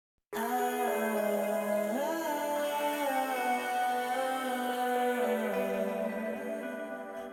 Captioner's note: soft music; radio chatter